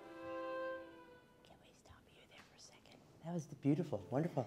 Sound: whispering

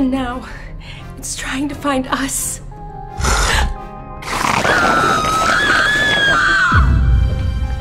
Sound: screams

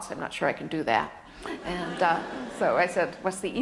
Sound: laughter

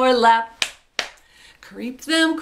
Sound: claps twice

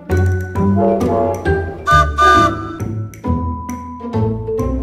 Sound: trains whistle

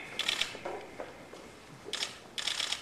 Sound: camera clicks

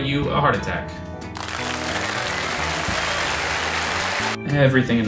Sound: canned audience applause

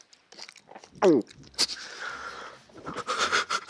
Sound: sound from his throat

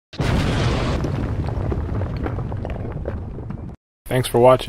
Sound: explosions

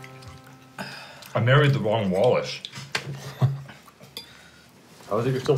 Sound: laughs

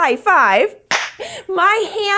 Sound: hands clap

